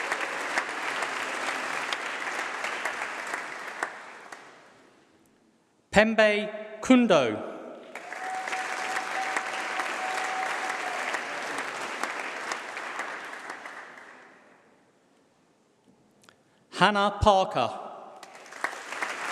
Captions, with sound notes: [Applause]. Mpembe Nkundo. [Applause]. Hannah Parker.